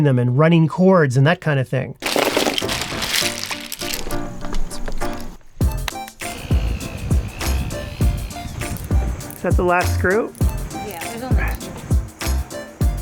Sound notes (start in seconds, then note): 2.0 pencils spilling; 2.1 playful music; 6.1 drill drilling